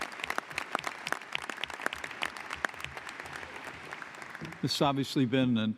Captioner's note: applause